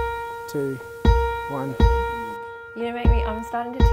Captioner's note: people murmuring